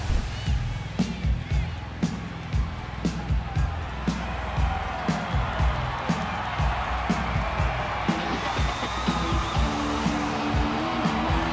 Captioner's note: crowd cheering